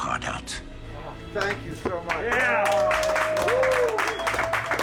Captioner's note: crew cheering